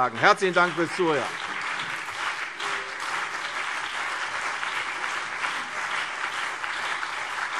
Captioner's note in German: Anhaltender Beifall CDU und BÜNDNIS 90/DIE GRÜNEN